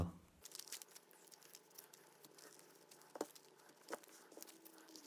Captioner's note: paper rustling